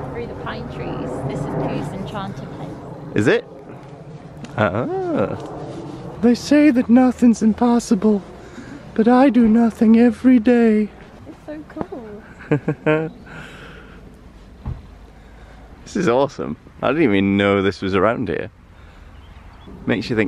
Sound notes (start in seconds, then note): 6.3 Pooh Voice